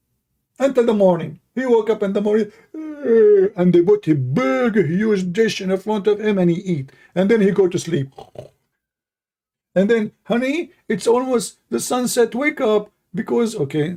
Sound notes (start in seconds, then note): 8.1 yawn